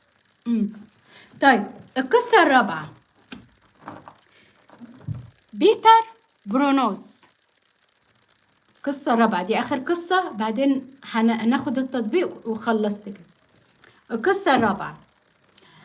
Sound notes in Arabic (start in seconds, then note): none